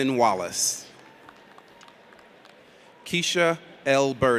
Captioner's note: audience applauds